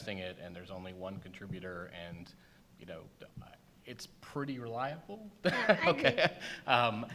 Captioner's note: laughs